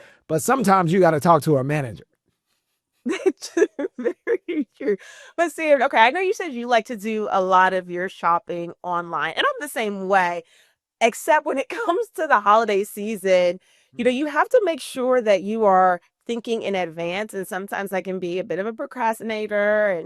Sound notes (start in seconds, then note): 3.1 laughs